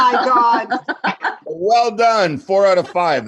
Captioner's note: laughing